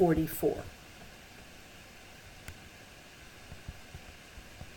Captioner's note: silent